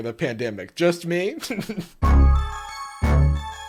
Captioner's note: chuckles